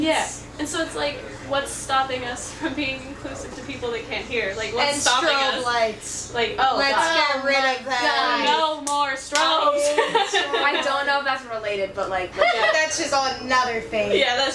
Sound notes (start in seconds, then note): 9.8 laughing